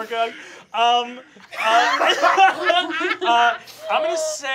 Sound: laughter

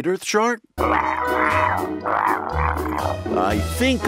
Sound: shark grumbles

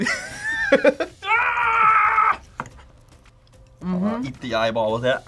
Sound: laughs; yells

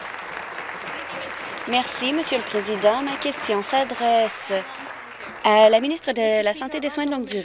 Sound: applause

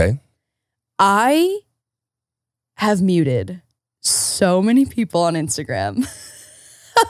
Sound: laughs

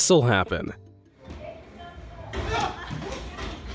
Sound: people chattering

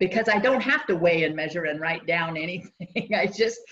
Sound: laughs

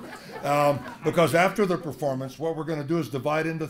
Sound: laugh

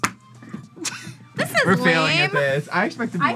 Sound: laughs

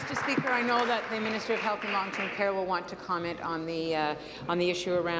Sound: applause

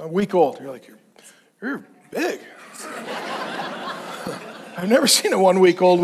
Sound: congregation laughs

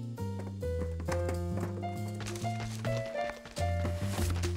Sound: birds chirping

